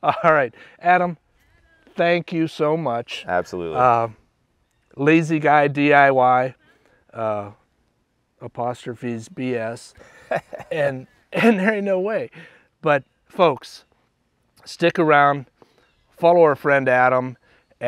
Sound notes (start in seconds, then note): 9.9 laughs